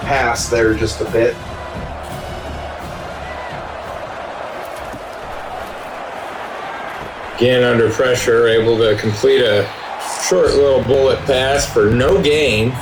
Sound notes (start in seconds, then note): 1.6 crowd Noises